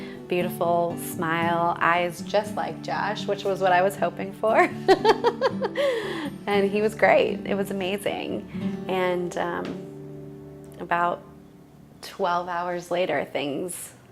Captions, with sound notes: Beautiful smile, eyes just like Josh, which was what I was hoping for. (laughs) And he was great. It was amazing. And, about twelve hours later things...